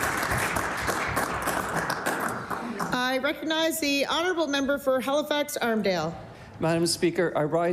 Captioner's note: applause